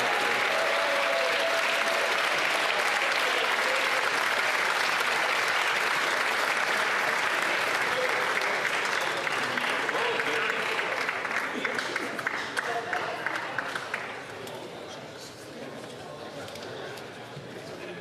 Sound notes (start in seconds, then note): 3.3 applause